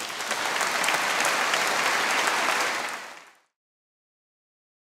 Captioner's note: audience cheers